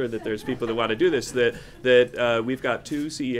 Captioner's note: laughter